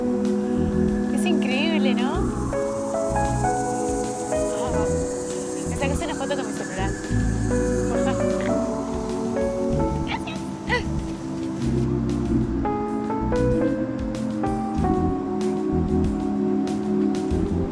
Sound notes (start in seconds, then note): 2.5 insects Trilling; 7.9 insects Trilling; 10.0 laughing